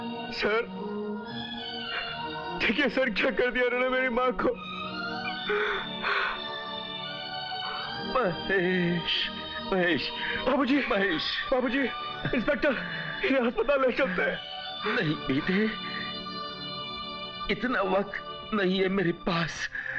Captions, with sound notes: Sir. Look sir, what they did to my mother? (Sobbing) Mahesh. Father. - Mahesh. Inspector. Take him to hospital. No, son. I don't have that much time.